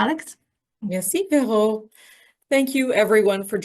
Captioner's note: French